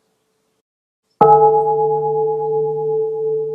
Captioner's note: bell